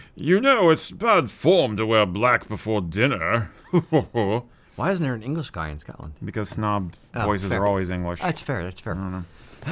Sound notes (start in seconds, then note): 3.6 snobbish chuckle